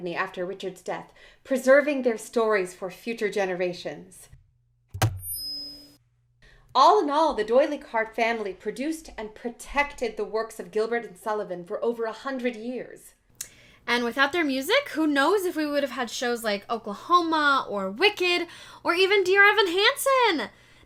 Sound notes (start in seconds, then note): 4.8 whine of speakers; 4.9 mic thud